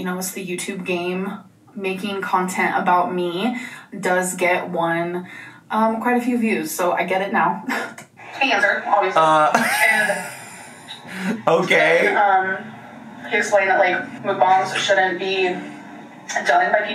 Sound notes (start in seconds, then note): 7.9 giggles; 11.9 laughs